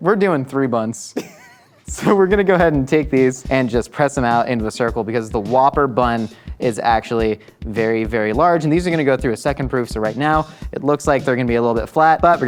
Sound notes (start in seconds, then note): 1.1 laughing